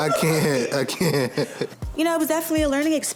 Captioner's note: laughs